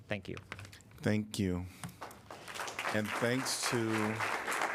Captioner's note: applause